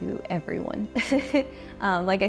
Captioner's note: chuckles